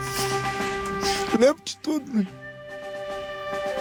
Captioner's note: voice breaking